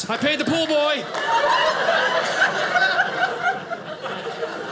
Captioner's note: audience laughing